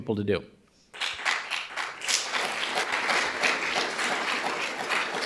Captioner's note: audience applauding